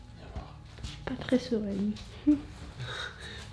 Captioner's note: nervous laughter